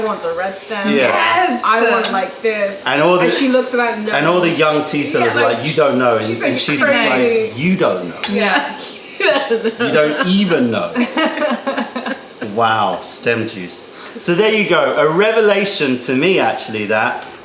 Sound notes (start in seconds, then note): 10.8 laughter